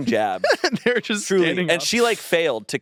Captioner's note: laughs